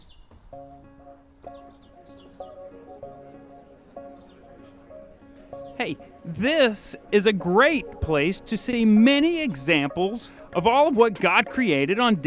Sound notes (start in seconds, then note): 1.2 subtle music; 4.5 birds chirping